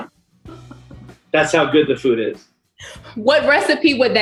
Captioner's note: laughs